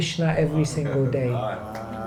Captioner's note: appluase